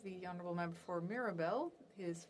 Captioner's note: speaking FRENCH